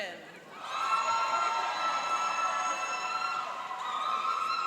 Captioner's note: cheering and applauding